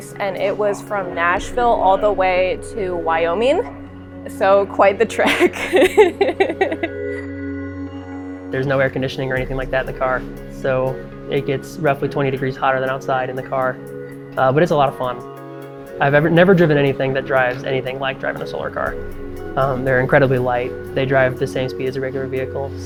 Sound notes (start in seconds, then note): 5.2 laughs